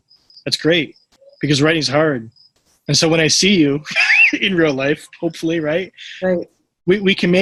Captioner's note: laughs